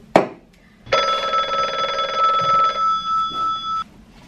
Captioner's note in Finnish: Puhelimen pirinää